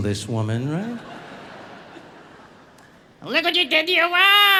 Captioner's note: audience laughing